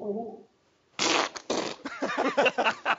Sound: whoopee cushions farting; laughing

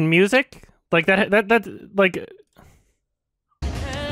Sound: stammers

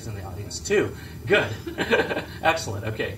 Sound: laugh

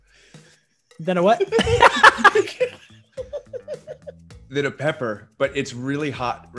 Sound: laugh

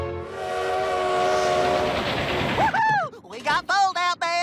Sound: train whistle blows

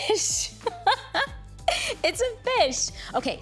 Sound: laughs

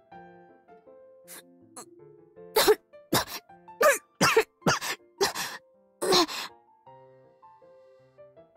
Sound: coughs; coughs coughs

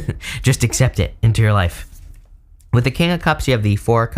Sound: chuckles

